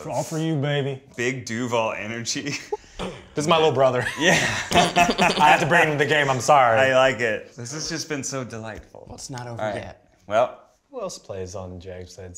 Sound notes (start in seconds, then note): 2.7 laughs; 3.9 Ned laughs